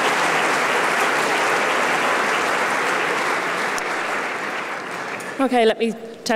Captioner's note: applause